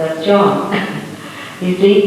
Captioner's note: laughs